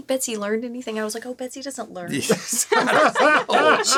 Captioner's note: all laughing